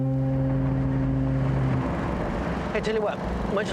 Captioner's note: foghorn blowing